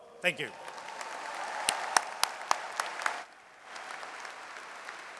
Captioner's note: audience cheers and applauds